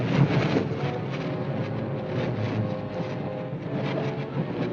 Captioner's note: train clacking